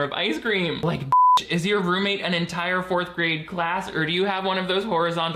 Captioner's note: beeps